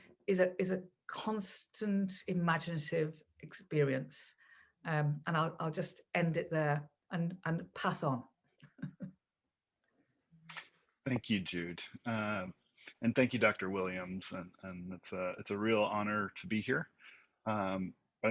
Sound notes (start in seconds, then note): 8.7 laughs